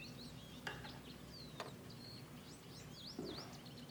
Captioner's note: birds chirping